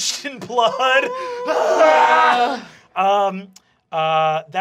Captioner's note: yelling